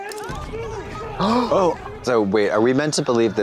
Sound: Trixie and Katya gasp

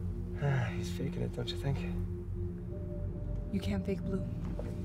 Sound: sighs

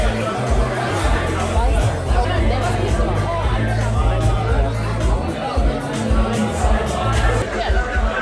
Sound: haha

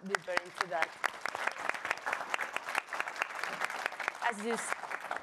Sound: audience applauds

